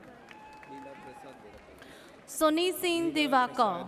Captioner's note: audience cheers